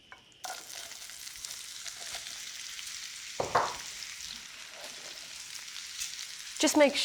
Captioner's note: sizzling